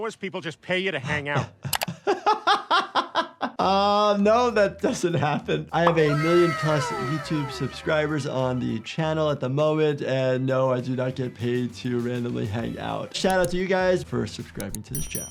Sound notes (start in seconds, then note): 1.0 laughing